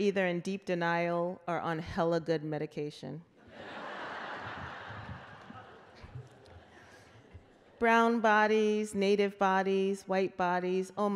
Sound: laughter

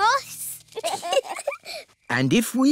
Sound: both giggle

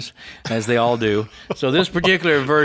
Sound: laughs

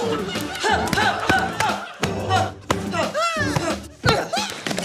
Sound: grunts repeatedly

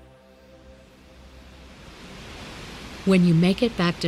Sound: waves breaking

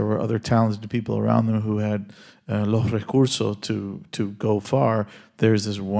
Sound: speaking Spanish

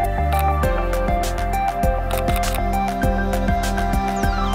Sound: camera clicks

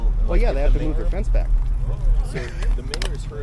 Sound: laughs

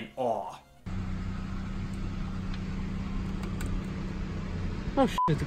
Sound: car idling; beep

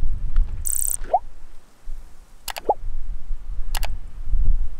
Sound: beeps and clicking

